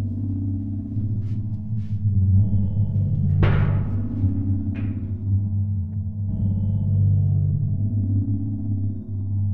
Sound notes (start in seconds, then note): 6.1 metal clanking